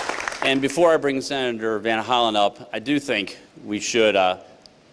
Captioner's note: applause